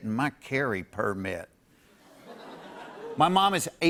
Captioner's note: light laughter